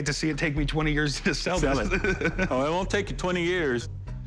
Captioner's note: laughs